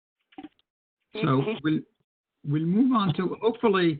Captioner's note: voice distorted